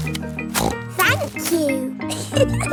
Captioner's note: snorts; giggles